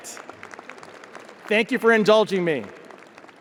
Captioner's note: audience applauding